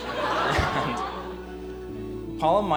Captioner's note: laughter